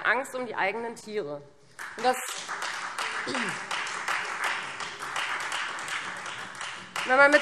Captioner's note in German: Beifall Freie Demokraten